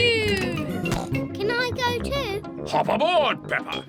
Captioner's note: snorts